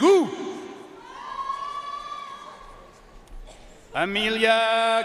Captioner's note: audience cheering and applauding